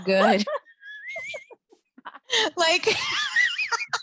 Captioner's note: both laughing